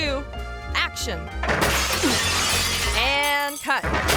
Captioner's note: glass breaking